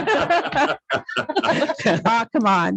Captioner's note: laughs loudly